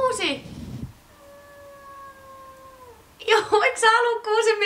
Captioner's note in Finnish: miau